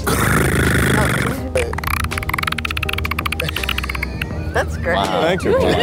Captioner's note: clicking alien noise